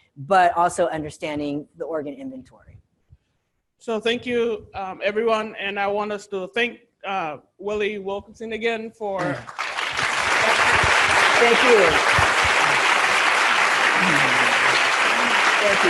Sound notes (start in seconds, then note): 9.2 students applauding